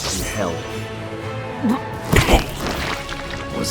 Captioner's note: cough and spit